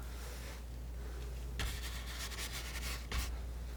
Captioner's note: scratching